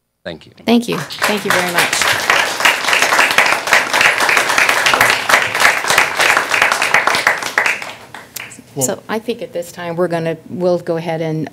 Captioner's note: applause